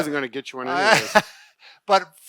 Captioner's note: laughter